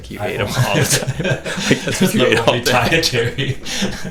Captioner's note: both laughing